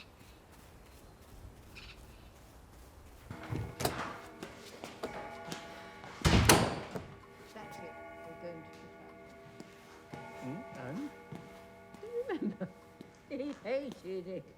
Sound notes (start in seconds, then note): 2.9 grandfather clock chiming